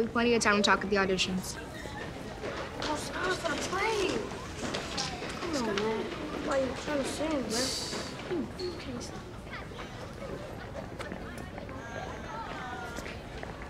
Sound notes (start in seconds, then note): 1.9 students chattering in background; 8.4 students chattering in background continues